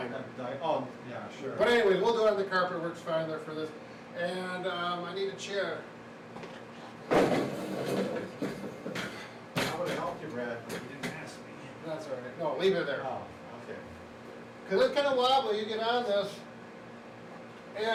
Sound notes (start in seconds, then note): 7.1 chair sliding